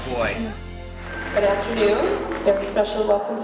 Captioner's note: clapping